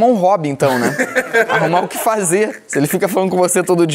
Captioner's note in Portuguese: risadas